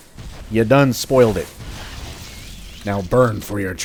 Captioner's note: fwoosh